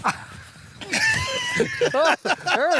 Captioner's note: laughter